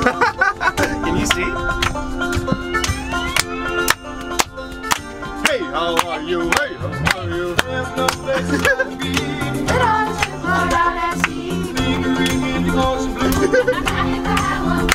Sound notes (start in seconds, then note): 0.2 laughing; 1.1 laughing and clapping